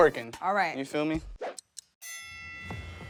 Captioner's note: clocking ticking; bell rings